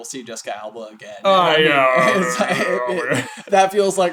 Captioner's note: laughter